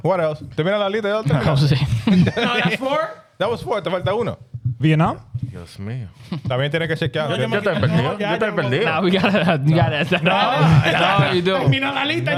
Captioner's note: speaking In Foreign Language